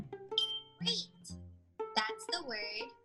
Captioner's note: stars tinkling